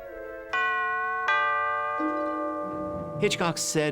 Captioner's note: doorbell rings